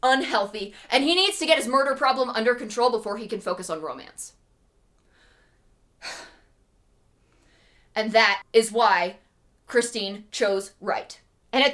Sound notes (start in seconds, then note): 7.2 deep breath